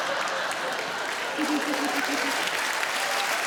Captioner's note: sarah giggles